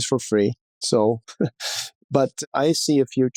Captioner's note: laughs